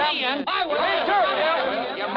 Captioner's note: overlapping chattering